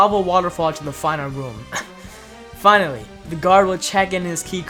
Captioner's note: gasp